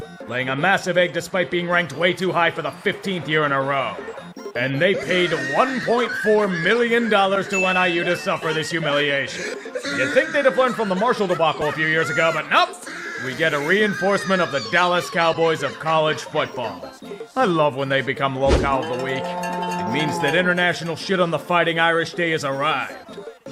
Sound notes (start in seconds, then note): 4.9 laughs in shambles